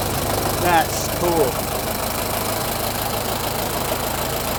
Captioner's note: engine idles